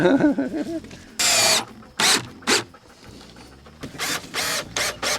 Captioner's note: laughing; drill drilling